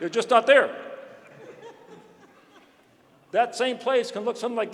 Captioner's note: laughter